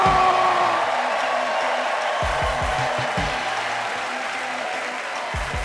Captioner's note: audience applauding, cheering